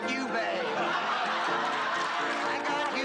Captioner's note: laughs